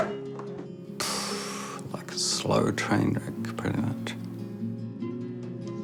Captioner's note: sighs heavily